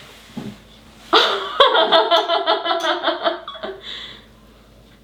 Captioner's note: laughs loudly